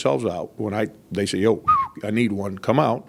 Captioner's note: whistles